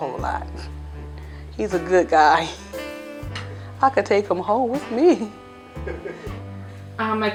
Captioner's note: laughing